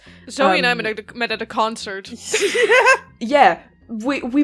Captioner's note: laughter